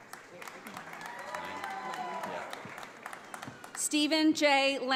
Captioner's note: audience applauds